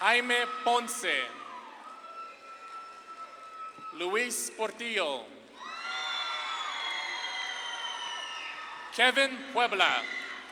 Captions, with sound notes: Jaime Ponce. (audience claps and cheers) Luis Portillo. (audience claps and cheers) Kevin Puebla.